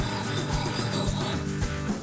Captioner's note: axe grinding